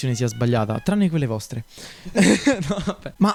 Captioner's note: laughs